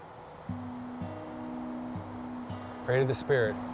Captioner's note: birds calling